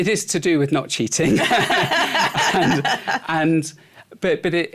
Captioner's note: laughter